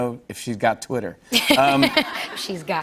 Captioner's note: laughter